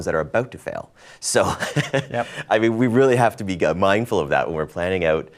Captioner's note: laughs